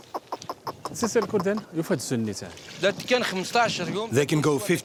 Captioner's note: Arabic spoken audio